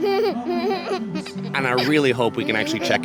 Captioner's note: giggling